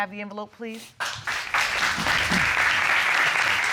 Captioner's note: all applauding